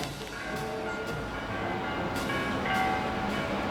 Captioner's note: distant music; bells tolling